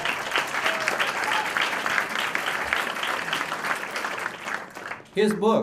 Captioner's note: applause